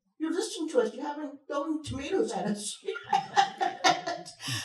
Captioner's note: chuckles